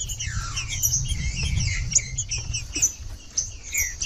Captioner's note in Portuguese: trinca ferro cantando